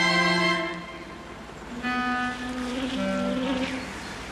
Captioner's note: lnsect buzzing